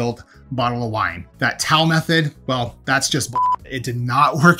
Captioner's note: beep